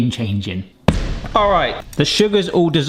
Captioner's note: pan thudding